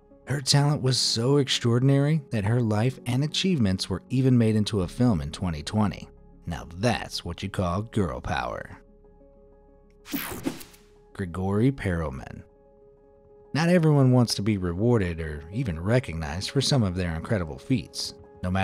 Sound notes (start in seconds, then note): 10.1 graphic whooshing